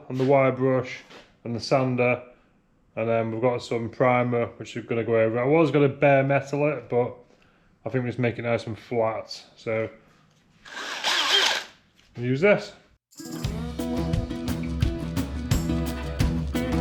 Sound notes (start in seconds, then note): 10.6 drill whirring; 13.2 upbeat music